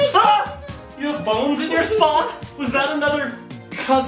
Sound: yells

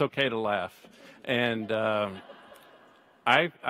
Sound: audience laughs

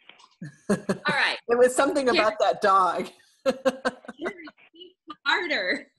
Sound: laughs

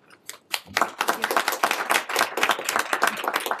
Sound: applause

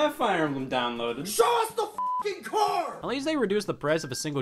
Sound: beep

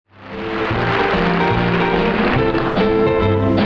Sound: audience applauds; lively strumming music

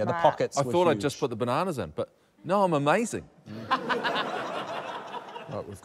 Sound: laughter

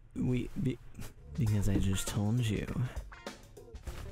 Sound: seductively

